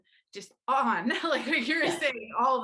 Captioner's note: laughs